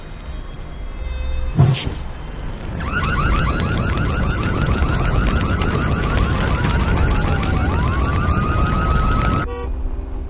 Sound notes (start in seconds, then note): 2.5 fire burning, car alarm; 7.1 siren; 9.4 car horn honking